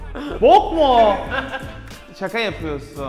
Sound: keeps laughing

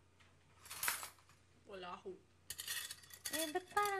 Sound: clutters

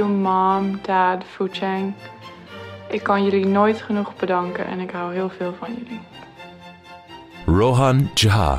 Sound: non-english speech

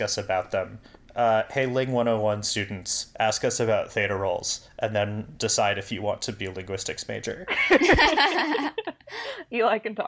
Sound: laugh

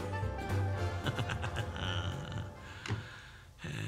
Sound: chuckles

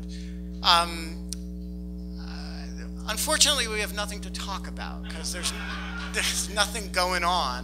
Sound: laughs

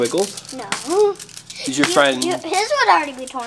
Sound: laughs

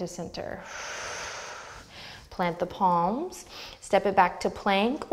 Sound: deep breath

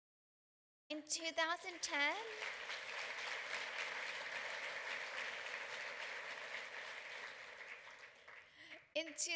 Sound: applause

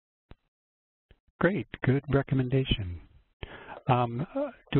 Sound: voiceover

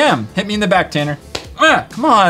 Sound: smack

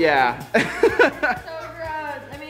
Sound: laughing

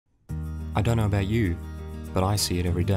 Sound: voiceover

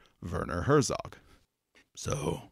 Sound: Falls into Herzog voice

